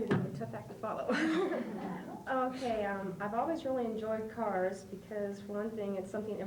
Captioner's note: laughs